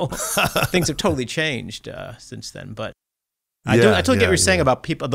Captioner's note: laughter